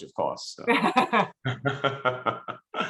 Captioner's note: laughing